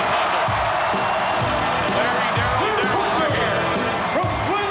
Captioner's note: applause